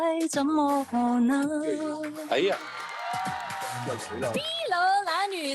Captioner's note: Cantonese